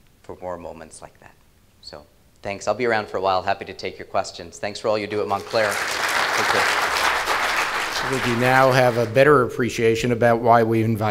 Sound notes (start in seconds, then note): 5.2 applause